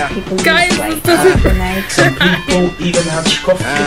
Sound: laughing

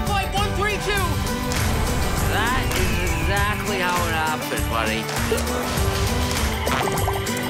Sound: slurred

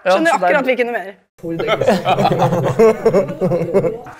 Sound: the boys laugh

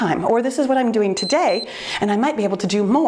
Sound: timer beeps

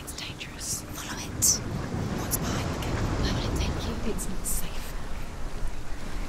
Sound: whispering

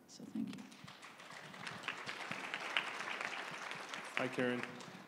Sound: applause

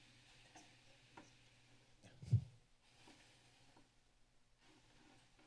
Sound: silence; whispers; silence

